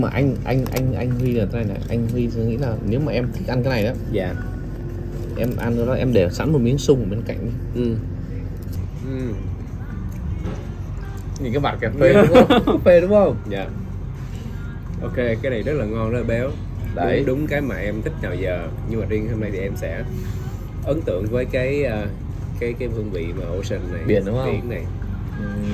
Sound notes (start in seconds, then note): 12.1 laughs